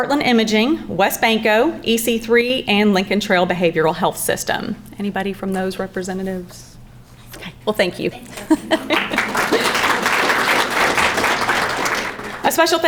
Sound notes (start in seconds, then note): 8.1 laughs; 8.3 crowd clapping